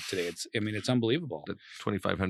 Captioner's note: laughs